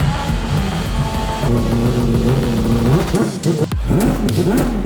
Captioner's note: race car revving